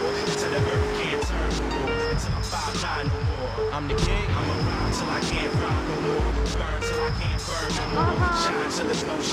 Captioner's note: tires screech